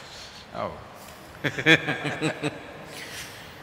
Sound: laughs

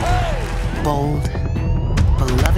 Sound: audience claps; sirens blaring

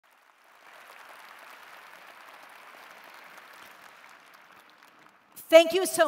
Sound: applause

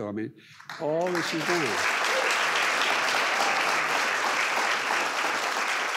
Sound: audience applause

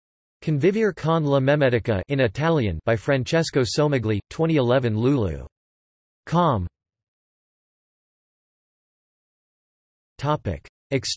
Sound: in Italian

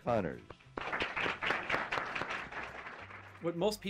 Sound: audience applauds

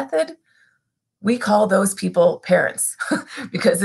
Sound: laughter

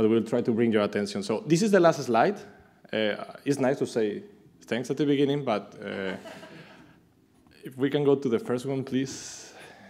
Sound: laughter

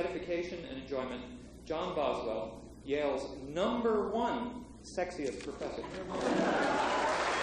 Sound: applause

